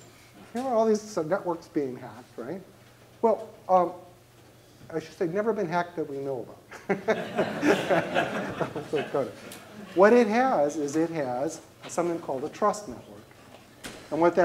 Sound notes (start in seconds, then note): 6.7 laughter